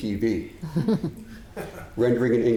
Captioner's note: audience chuckling